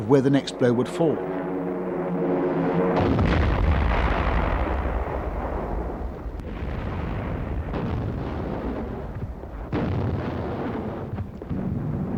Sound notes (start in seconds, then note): 2.5 plane engines roaring; 2.9 bombs exploding